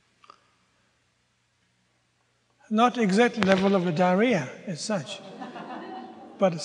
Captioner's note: audience groans